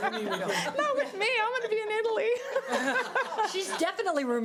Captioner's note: laughs